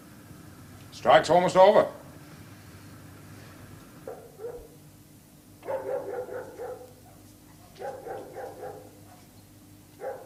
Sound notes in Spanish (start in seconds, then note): 3.5 Perros ladrando